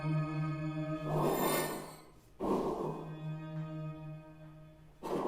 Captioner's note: humming sound playing; whooshing sound playing